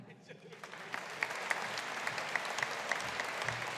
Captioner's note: audience applauding